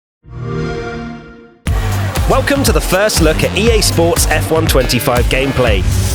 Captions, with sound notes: [XBOX SOUND] Welcome to the first look at EA Sports™ F1® 25 gameplay.